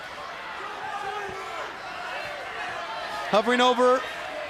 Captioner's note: crowd cheering